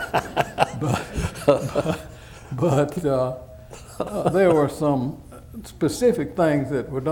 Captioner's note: laughter